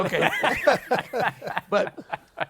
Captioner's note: laughter